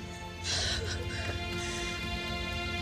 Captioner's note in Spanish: llora